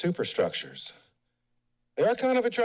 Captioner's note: pause